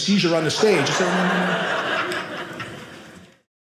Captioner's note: audience laughing